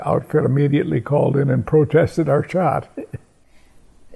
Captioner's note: chuckle